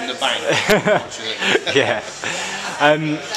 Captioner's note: chuckles